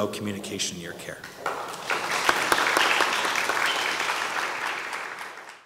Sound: audience applauds

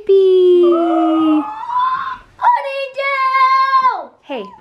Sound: shreiks

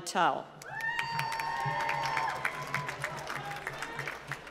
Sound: applause

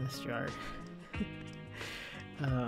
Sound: laughs

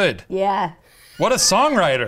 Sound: laughs

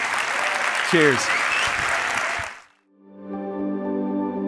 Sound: crowd applauds; gentle music

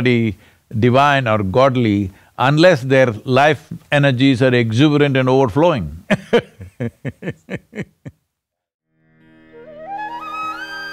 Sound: laughs

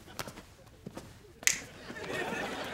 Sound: snapping

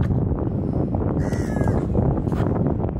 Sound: bird sound

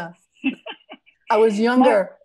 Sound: laughs

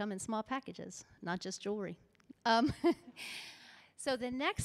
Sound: laughs

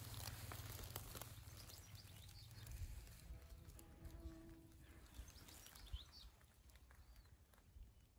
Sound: birds tweeting

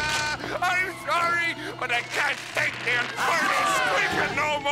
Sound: sobbing

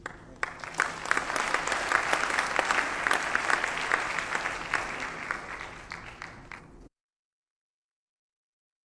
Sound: applause

